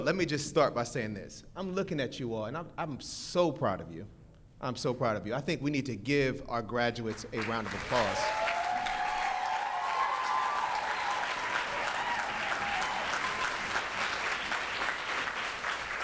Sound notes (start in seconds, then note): 7.4 audience cheers